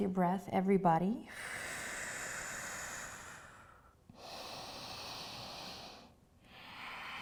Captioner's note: breathes deeply